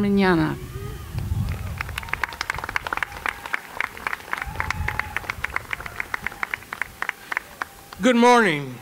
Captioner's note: applause